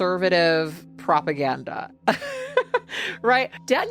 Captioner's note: laughs